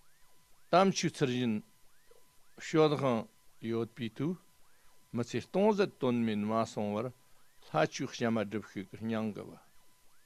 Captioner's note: tibetan